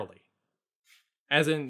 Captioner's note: pause